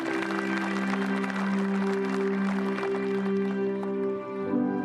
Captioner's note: applause